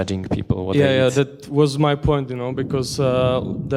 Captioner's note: voiceover